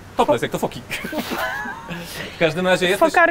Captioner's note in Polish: śmiech